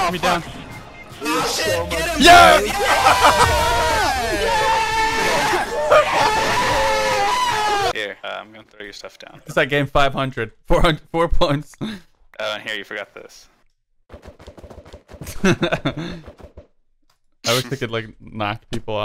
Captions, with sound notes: (intense victory screams) Here, I'm gunna throw your stuff down. It's like that game five hundred. Four points... here you forgot this....